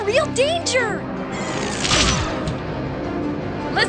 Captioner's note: zapping sound